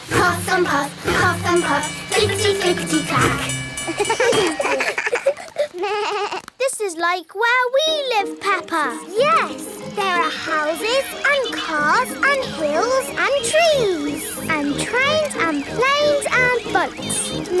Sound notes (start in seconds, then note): 3.8 all laugh